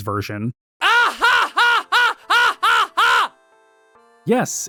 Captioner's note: loud, forced laughter